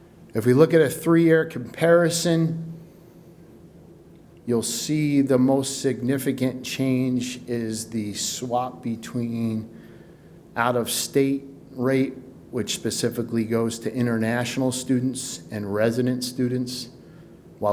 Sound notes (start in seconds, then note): none